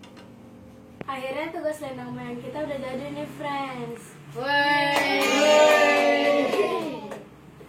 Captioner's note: all cheers